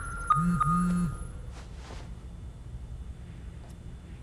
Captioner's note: phone vibrating